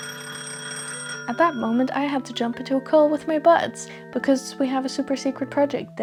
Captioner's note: phone rings